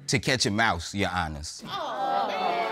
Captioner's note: audience exclaims